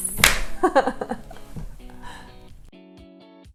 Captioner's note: laughs